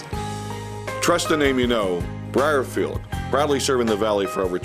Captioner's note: voiceover